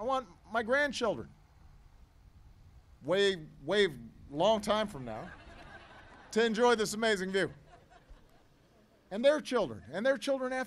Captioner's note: laughter